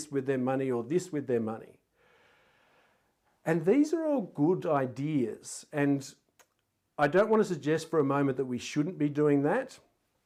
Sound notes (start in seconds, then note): none